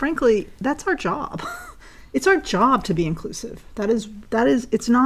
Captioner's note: laugh